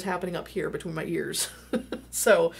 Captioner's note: laughing